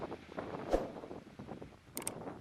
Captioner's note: WHOOSH - sound; click - sound